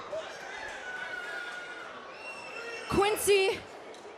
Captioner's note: screams